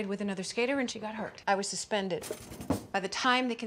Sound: cutlery rattling

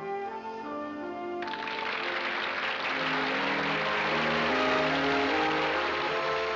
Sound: applause

